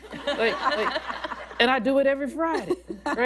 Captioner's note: laughter